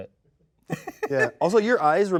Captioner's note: laughs